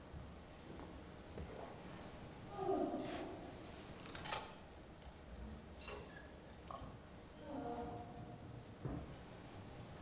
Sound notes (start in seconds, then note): 2.0 strange vocal noises